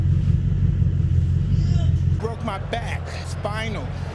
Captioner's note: moaning